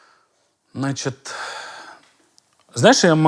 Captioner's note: exhales loudly